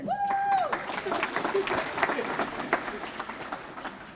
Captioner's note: applause